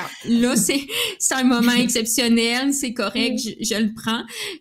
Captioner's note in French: rires